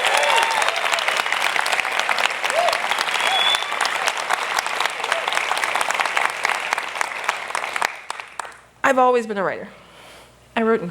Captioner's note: applause